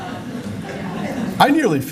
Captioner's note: laughter